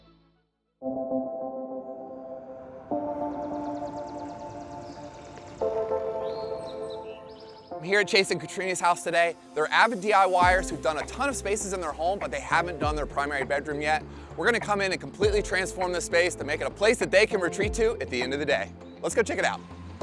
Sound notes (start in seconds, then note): 1.3 birds singing; 1.3 relaxing music